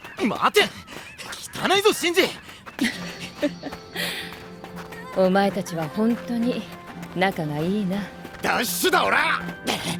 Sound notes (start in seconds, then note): 2.7 laughs